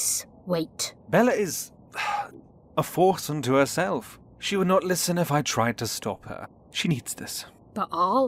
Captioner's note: sighs